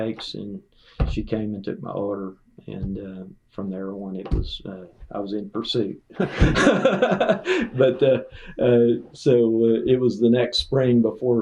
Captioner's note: laughter